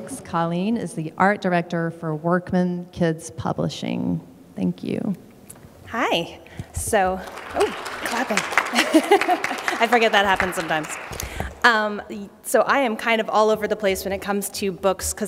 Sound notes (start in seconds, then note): 6.8 applause; 8.6 laughter